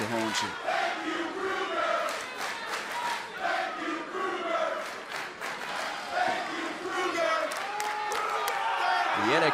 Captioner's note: crowd cheering